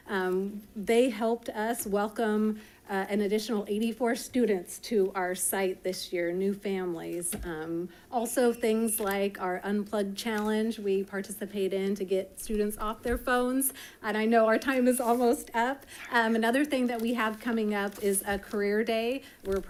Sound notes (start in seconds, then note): none